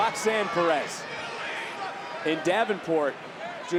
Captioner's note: crowd chattering